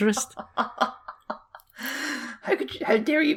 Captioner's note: laughter